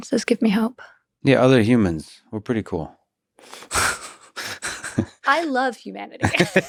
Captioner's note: laughs